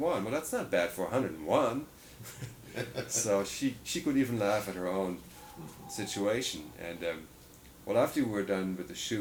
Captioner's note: laughter